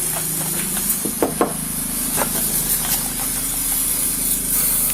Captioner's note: officer knocks on door